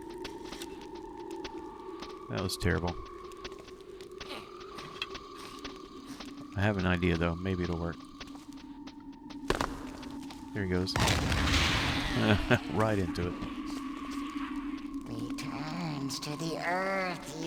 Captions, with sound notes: That was terrible. I have an idea though; maybe it'll work. There he goes. [laughs] Right into it.